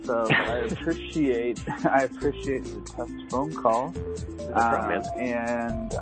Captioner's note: laugh